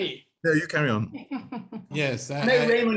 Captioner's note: laughs